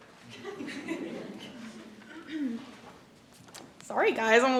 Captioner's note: audience chuckles